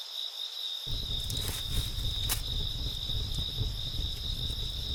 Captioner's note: leaves crunching